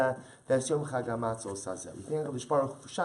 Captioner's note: Hebrew